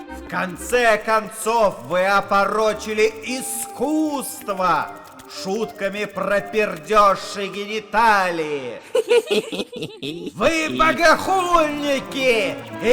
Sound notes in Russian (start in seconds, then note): 8.7 Скелеты хихикают